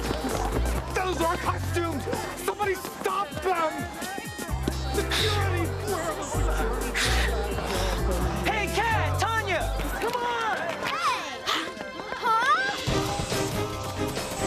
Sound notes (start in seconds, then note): 4.1 blowing air